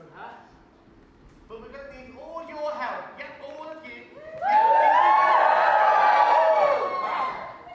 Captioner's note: audience cheers